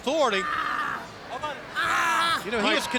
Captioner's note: Rey Jr groaning